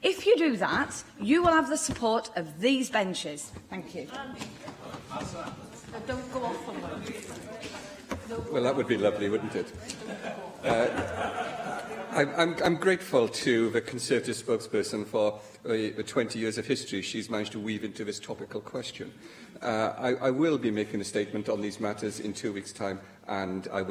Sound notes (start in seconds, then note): 9.8 laughter